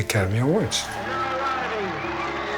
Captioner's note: applause and cheering